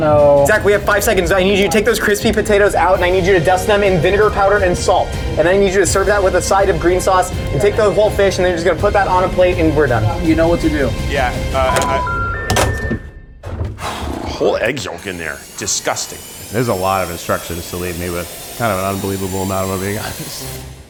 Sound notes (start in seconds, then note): 12.3 dial tone beeps